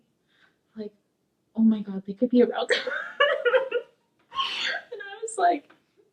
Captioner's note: laughing